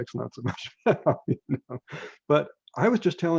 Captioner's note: laughs